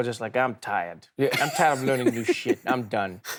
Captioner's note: Charlamagne Tha God laughs